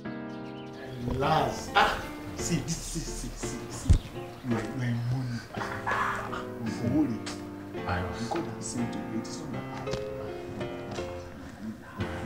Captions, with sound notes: (chattering) You are in money. God has sent you here. It's not by power.